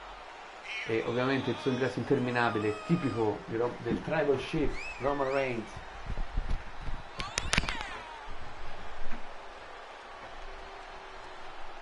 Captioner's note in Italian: Applauso